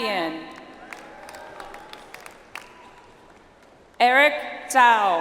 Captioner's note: audience applauds